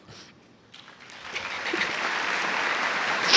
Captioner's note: cheers and applause